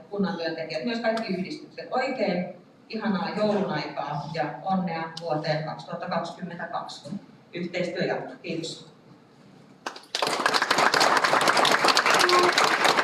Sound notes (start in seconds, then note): 9.8 Aplodit